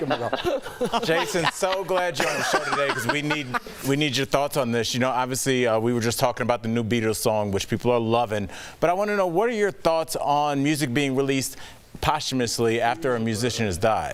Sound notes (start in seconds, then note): 3.9 laughter